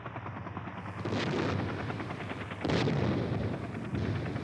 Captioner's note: explosions